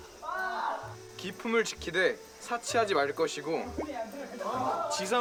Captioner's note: reciting